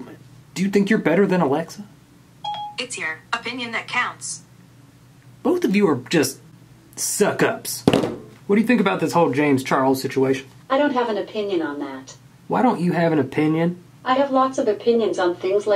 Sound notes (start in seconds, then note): 2.4 phone beeps